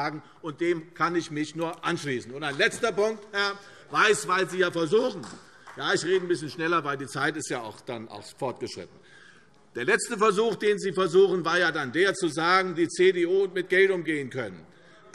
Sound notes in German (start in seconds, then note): 2.8 Vereinzelter Beifall CDU